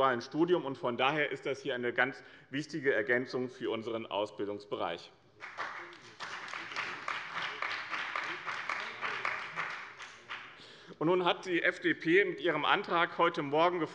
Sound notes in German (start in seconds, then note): 5.4 Beifall bei dem BÜNDNIS 90/DIE GRÜNEN und der CDU